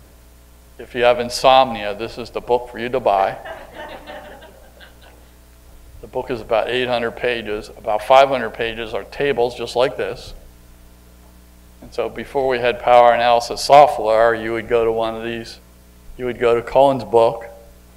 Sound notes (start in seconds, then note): 3.1 audience laughter